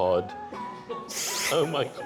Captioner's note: inhale